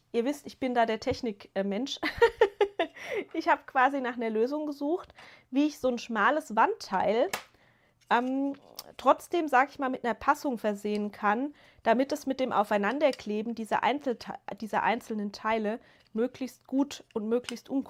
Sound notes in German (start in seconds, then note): 2.0 gelächter